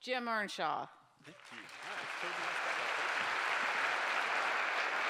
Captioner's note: applause